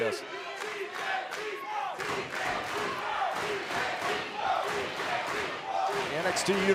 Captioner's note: crowd cheering